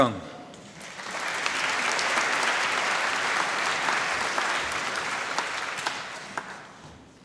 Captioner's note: applause